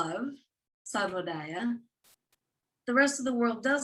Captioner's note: non-english speech